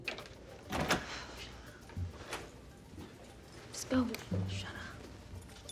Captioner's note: door rattles